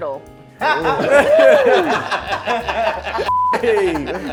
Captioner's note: laughing